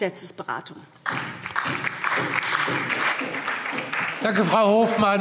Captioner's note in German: Beifall SPD